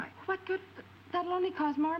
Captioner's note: stammers